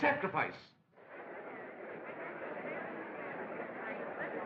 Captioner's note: crowd Clamoring